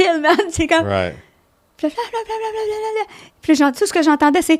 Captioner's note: in french